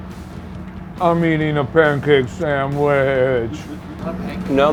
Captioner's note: laughs